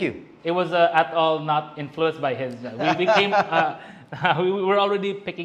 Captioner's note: laughs